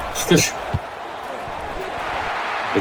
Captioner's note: crowd cheering